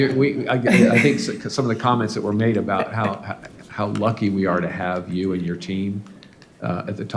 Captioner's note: laughter